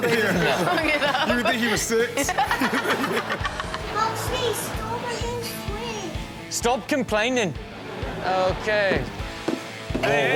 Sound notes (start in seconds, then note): 0.0 all laughing; 9.1 upbeat music; 9.9 table knocking